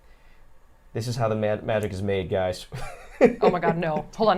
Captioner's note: laughs